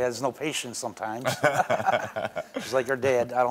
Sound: Karamo laughs

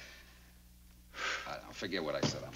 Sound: sighs

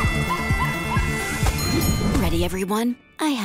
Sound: music playing, screaming; dinging

